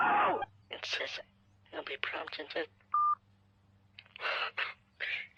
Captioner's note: hang up beep